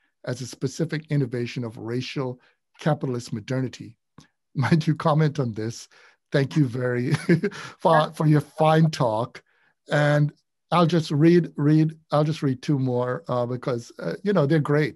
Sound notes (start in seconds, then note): 6.4 laughs